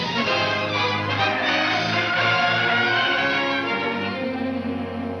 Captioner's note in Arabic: اصوات صرير الاطارات